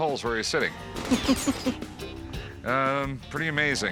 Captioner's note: laughs